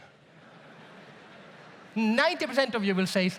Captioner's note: audience murmurs